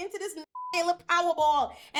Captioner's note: beep